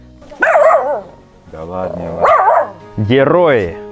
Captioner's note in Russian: лай собаки